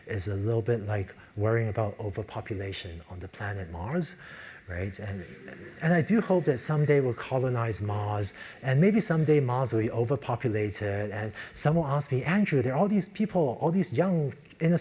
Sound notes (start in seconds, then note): 5.0 laugh